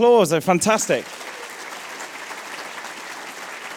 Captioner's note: applause